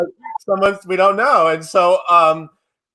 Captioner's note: laughs